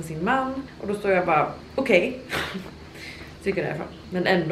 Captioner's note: laughter